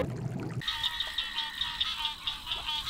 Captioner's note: frogs croaking